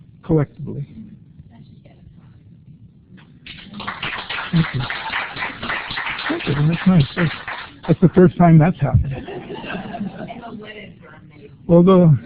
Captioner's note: applause